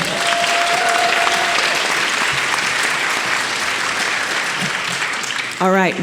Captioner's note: audience applauding and cheering